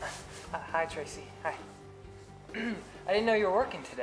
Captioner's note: clears throat